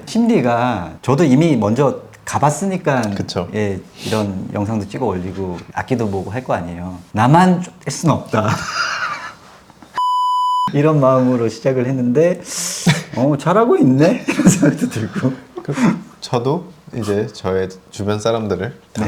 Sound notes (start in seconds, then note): 7.5 laughing kettle